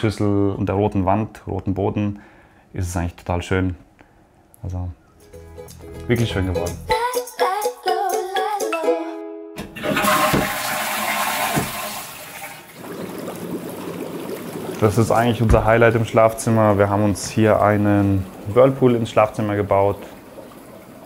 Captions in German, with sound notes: mit der schwarzen Toilettenschüssel und der roten Wand, roten Boden, ist es total schön, also wirklich schön geworden. (Sanfte Musik) (Spülgeräusch) (Blubbern) Das ist eigentlich unser Highlight im Schlafzimmer. Wir haben uns hier einen Whirlpool ins Schlafzimmer gebaut.